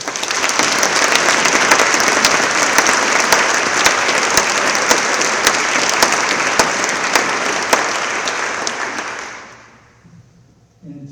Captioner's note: applause